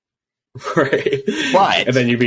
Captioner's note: laughs